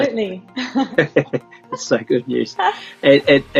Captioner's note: laughs